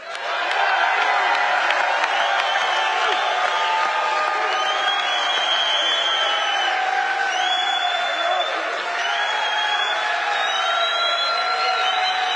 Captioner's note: applause